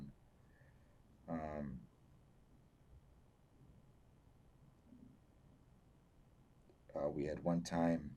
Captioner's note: pauses 6 seconds